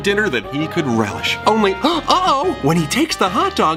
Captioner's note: gasps